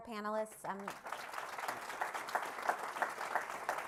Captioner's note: applause